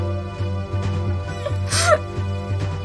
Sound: sangry laugh

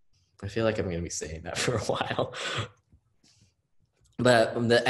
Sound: laughs

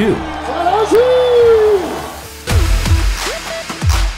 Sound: screaming in foreign language

